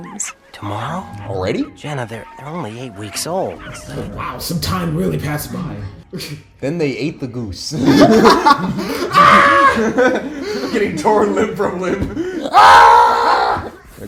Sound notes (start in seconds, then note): 8.9 agonized screams